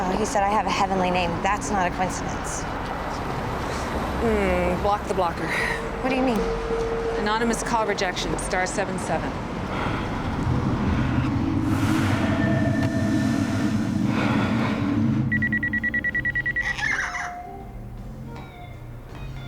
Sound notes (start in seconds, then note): 12.3 man breathing; 15.3 phone ringing; 16.6 kitty squawks